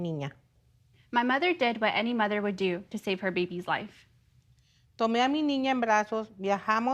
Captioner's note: speaking in native tongue